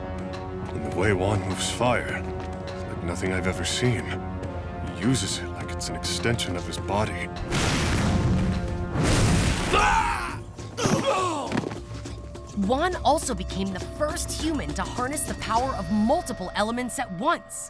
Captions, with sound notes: The way Wan moves fire, it's like nothing I have ever seen, he uses it like it's an extension of his body. [screaming, groaning] Wan also became the first human to harness the power of multiple elements at once.